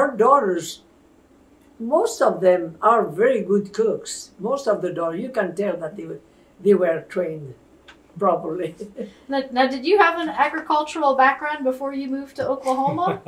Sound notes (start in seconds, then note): 8.6 laughs; 12.6 laughter